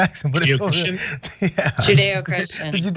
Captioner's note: laugh